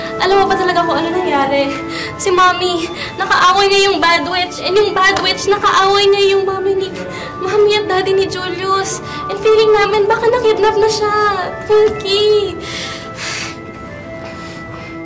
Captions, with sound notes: Do you know what really happened? Mom had a fight with the bad witch. And the bad witch had a fight with Julius' mom and dad. And we feel that he got kidnapped. Twinky. [sighs heavily]